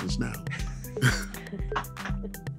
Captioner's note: laughter